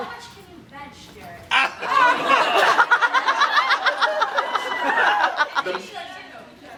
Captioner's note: laughs